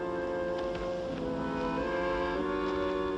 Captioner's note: footsteps